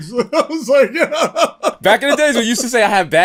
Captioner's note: laughter